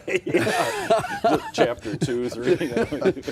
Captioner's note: laughing